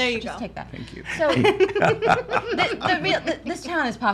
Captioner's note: laughs